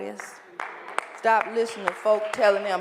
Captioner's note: applause